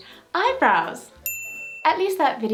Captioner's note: thumbs up, ding